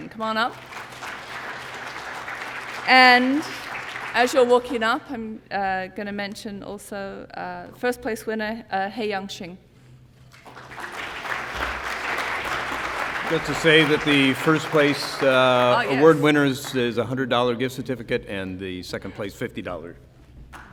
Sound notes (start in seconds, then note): 10.3 applause